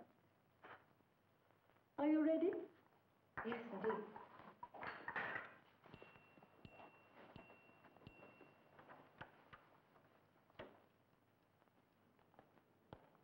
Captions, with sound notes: Are you ready? - Yes, indeed. (bell ringing)